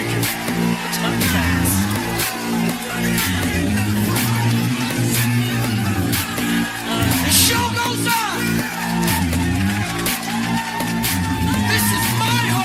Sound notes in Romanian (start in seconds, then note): 0.0 Aplauze; 8.6 Aplauze